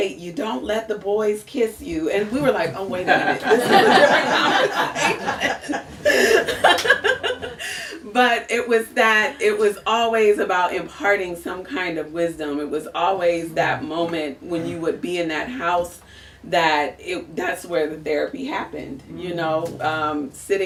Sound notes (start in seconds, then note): 7.2 laughs